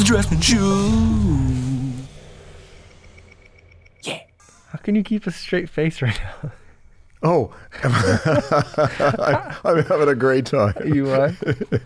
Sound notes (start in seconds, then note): 7.8 laughter